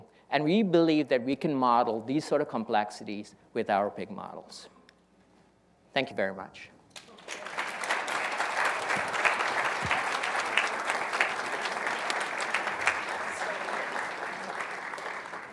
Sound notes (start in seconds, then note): 7.6 audience applauding